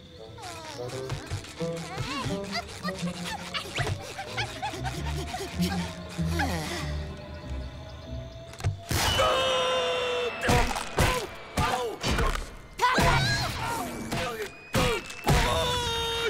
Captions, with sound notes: [groaning] [sighing] [screaming] Ow! Ow! Patrick! [screaming]